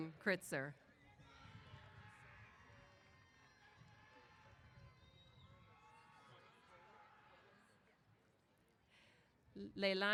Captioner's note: cheers